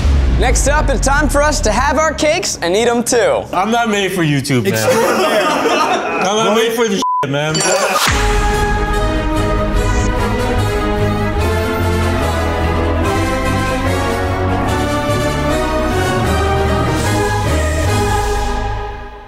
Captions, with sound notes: - Next up, it's time for us to have our cakes, and eat 'em too. - I'm not made for YouTube, man. (laughing) I'm not made for this (beep), man. (triumphant music)